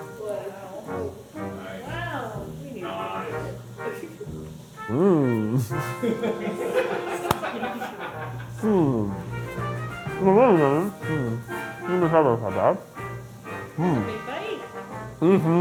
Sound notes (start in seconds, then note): 5.9 crew laughing; 10.3 mumbling